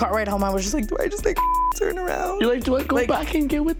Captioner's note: beep